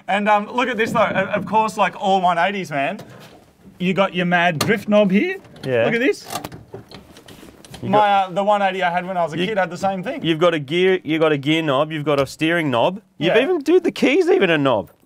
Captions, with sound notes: And, umm... look at this though. Of course, like all 180s man, -you got your mad drift knob here. -Yeah. -Look at this. -[handbrake clicks] My, uh... the 180 I had when I was a kid had the same thing. You've got a gear... you've got a gear knob, you've got a steering knob. -Yeah. -You've even dude, the key's even a knob.